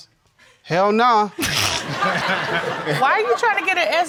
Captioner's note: all laughing